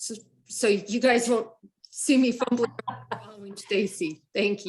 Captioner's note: laughs